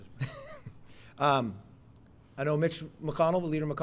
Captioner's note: laughs